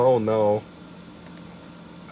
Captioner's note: clicks mouse in defeat